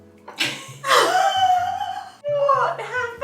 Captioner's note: both laugh